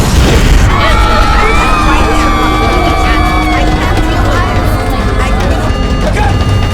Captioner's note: alarm blaring; screaming